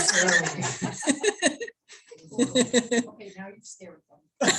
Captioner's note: laughter